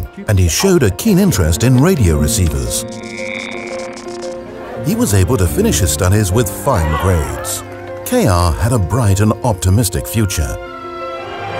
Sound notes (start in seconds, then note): 1.8 radio feedback buzzes